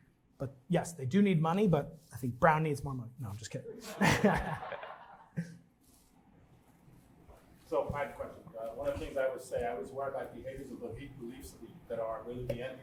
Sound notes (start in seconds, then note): 3.8 laughter